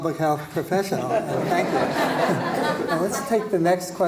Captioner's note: laughter